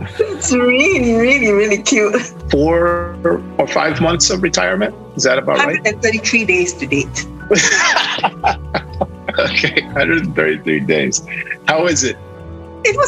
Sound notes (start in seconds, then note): 7.5 laughing